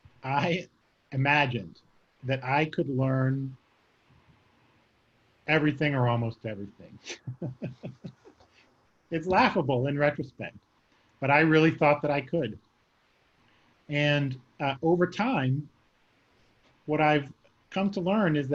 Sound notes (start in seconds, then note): 7.0 laughing